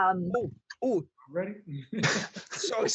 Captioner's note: everyone laughing